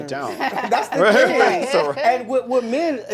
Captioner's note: laughter drowns out conversation